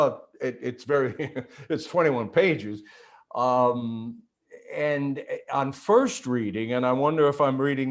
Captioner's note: chuckles